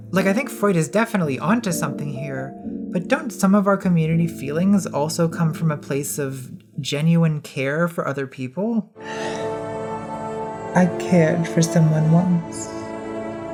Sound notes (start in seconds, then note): 9.1 sighing